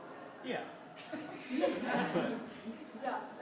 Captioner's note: class laughs